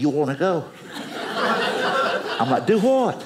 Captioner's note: audience laughing